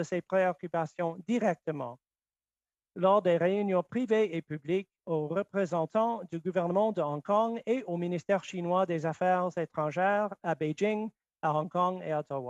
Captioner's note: speaking French